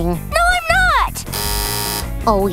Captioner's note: buzzer